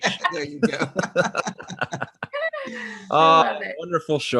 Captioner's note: laughing; laughing gently